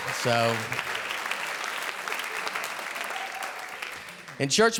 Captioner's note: audience clapping